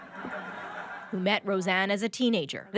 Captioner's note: laughter